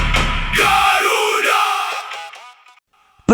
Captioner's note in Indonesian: berteriak